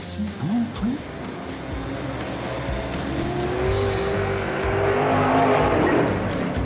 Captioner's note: car engine accelerating; stopwatch beep